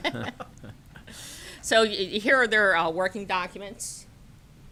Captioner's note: laughter